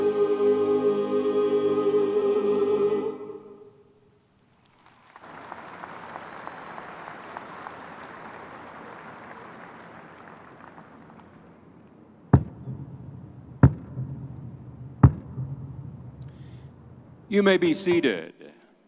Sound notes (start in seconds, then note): 4.6 graduates applauding; 13.6 ceremonial mace thudding